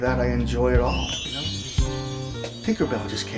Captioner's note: cellphone chimes